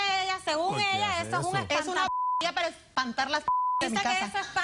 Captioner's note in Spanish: Bip